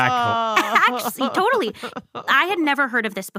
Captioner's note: laughs